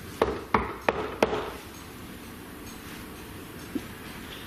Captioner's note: knocking